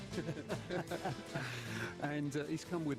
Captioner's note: laughter